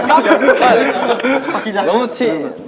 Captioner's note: laughing